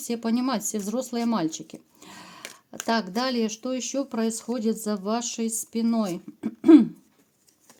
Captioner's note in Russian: откашливается